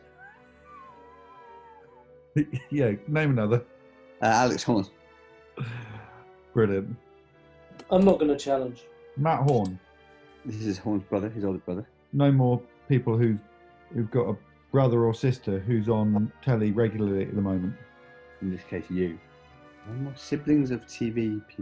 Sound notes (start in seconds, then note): 0.2 sniggering; 4.2 laughs